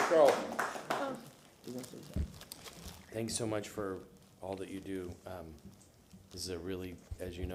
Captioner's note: applause